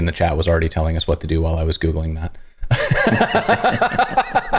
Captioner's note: laughter